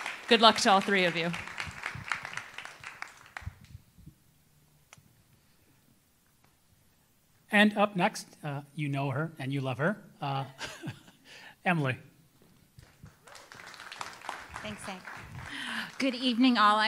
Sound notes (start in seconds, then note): 0.0 audience applauding; 10.6 chuckles; 12.8 audience applauding